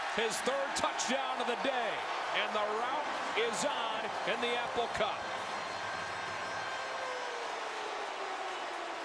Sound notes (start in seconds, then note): 5.2 siren; 7.0 crowd cheering